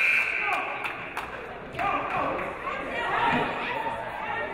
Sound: referee blows whistle; game buzzer buzzes

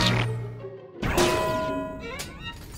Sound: glass shattering

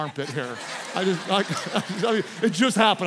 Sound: congregation laughs

